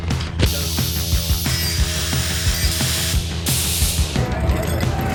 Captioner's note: grinding sounds